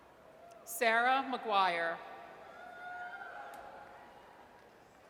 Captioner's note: audience cheers; audience cheers